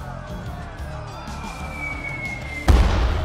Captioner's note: falling sound; explosion